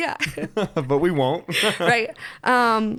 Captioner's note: laughs